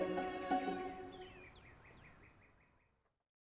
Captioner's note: birds chirping